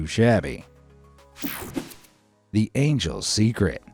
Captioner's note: air whooshing